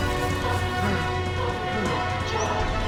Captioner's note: heavy breathing